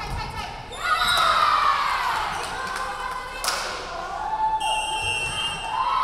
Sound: crowd cheering; referee whistling

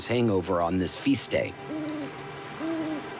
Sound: owl hoots

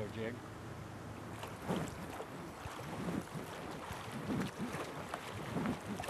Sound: oars splashing; fish splashing

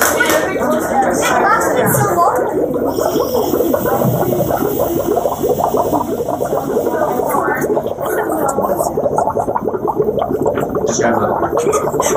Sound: bubbling

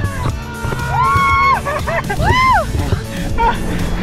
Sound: cheers

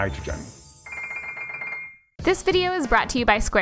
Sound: graphic chiming; graphic ringing

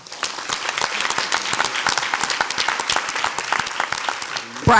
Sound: audience applauds

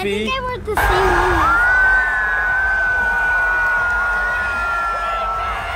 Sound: people clamoring

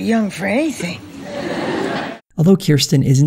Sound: audience laughter

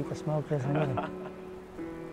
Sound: laughs

